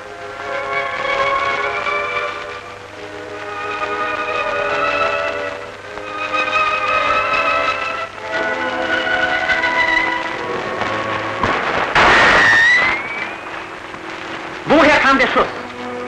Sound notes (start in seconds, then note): 11.4 shot